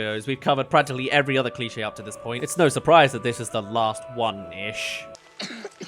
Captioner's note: coughs